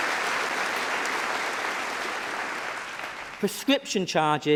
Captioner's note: applause